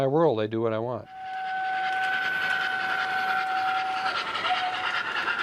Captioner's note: train whistle